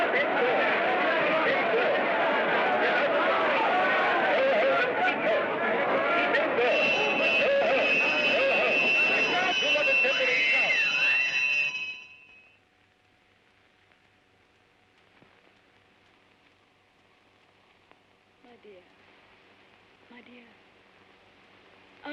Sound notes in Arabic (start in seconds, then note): 0.2 صراخ وضوضاء من الجمهور; 9.6 يُسمع صوت إنذار; 10.5 صراخ وضوضاء بين الحشود